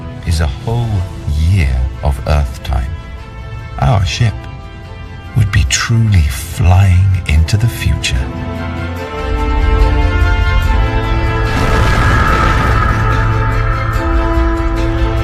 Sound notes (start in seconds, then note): 8.2 dramatic music continues; 9.4 spaceship roaring